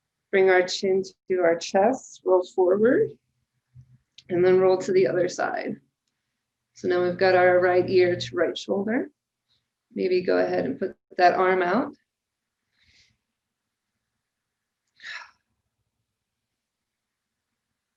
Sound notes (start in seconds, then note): 12.8 inhales deeply and exhales sharply